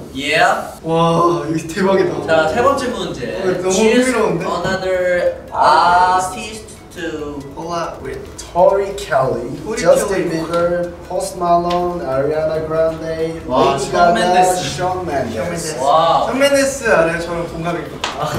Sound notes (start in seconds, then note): 1.2 speaking Korean; 16.5 speaking Korean